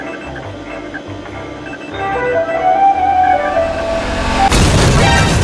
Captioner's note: distant roaring engine gets closer; crash